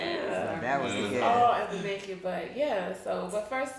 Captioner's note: speaking faintly